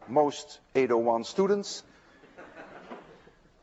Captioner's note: students laugh